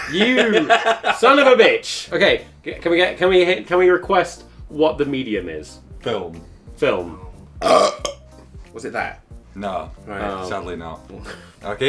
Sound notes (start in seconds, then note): 7.6 burps